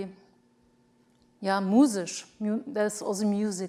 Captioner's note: speaks foreign language